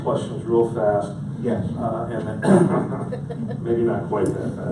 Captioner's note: audience laughs